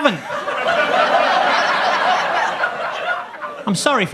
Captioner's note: audience laughs